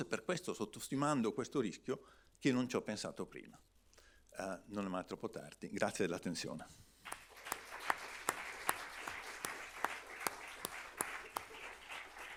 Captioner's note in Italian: Applauso